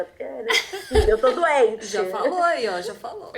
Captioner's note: laughs